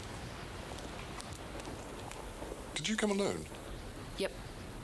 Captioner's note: none